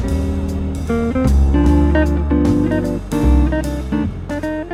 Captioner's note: bell tolls